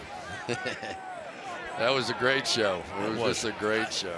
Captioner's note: laughs